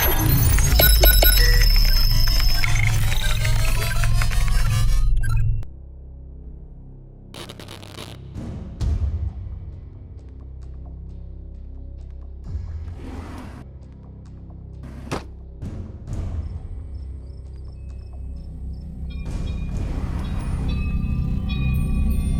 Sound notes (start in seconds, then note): 0.0 electronic music; 7.3 static crackles; 8.3 eerie music; 13.1 drawer swishes; 13.1 eerie music; 18.3 crickets chirp